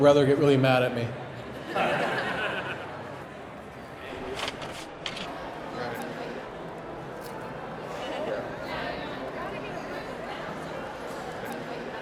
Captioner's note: audience laughs